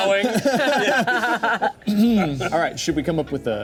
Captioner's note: all laughing